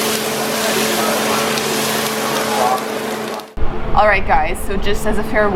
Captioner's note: cooking sounds